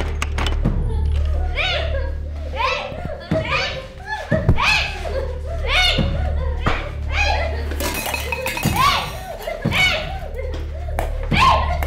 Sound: Chinni yelling, mother crying

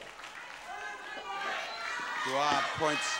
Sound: audience hollering

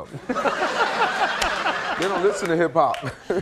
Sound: audience laughing

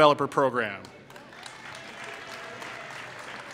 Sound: applause

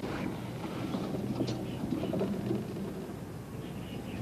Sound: footsteps fading

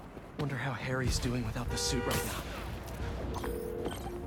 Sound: none

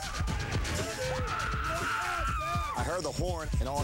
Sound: screaming

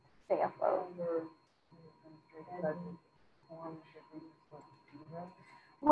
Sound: student speaking faintly

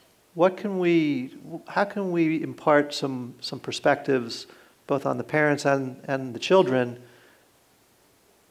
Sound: none

